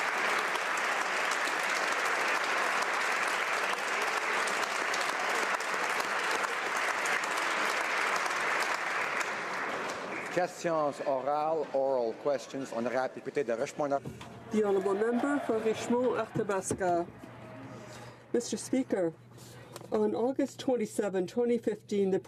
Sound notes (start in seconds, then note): 12.4 applause